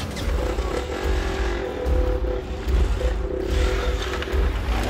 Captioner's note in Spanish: Ruido al prender los motores